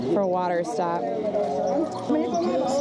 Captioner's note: background chatter